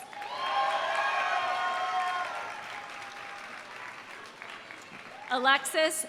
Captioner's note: audience applauding; audience cheering